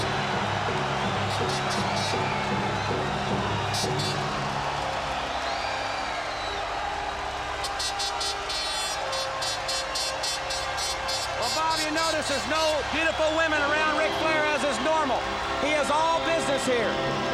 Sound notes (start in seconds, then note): 0.1 crowd cheers; 6.0 air horn blows repeatedly